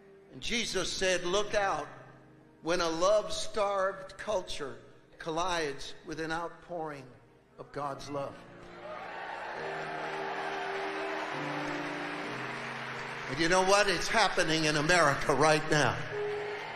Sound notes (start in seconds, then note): 8.6 congregation cheering